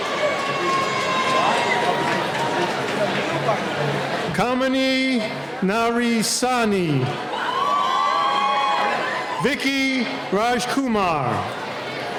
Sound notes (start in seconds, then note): 0.0 cheering; 7.2 cheering